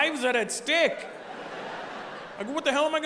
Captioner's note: audience laughing